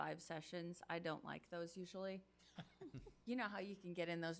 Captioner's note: chuckles